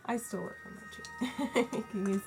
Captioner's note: laughs